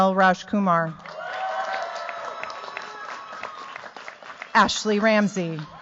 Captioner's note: cheers, applause